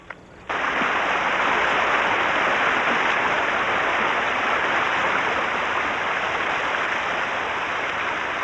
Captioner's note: Χειροκρότημα